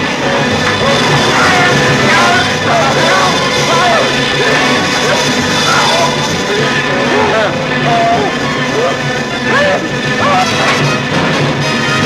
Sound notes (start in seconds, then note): 0.0 clattering; 0.6 Zinthrop shouting